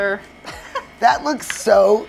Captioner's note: chuckles